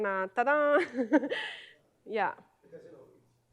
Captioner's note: laughing